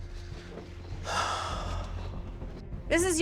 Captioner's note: sighs